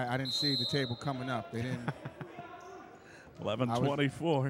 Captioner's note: laughing